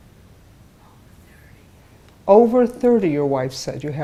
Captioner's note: whispering